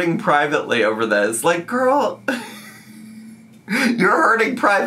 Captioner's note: laughs